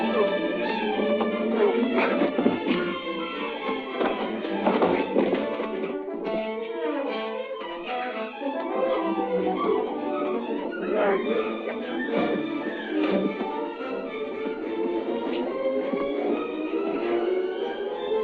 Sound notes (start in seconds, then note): 1.3 grunting; 4.6 thud; 7.7 dramatic music continues; 10.5 grunting